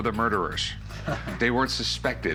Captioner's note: chuckle